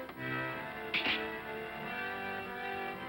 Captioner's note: razor clatters down